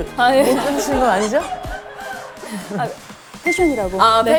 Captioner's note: hehehe